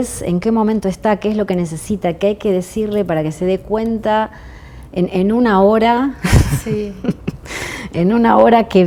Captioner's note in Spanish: risas